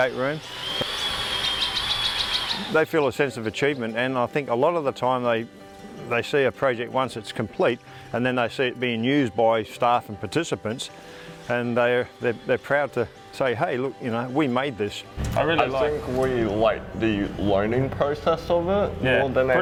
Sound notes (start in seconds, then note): 0.0 tools whirring